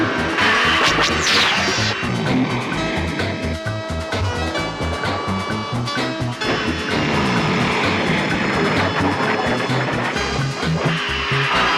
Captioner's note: zapping